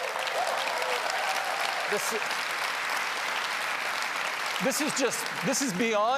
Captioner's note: applause